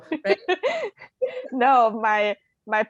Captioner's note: laughing